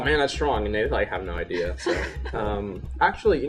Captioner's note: laughter